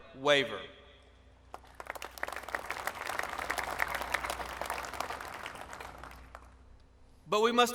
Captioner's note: applause